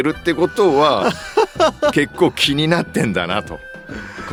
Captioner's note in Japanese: 笑い